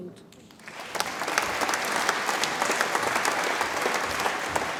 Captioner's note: audience applauds